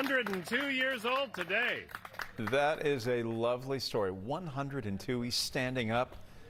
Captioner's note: applause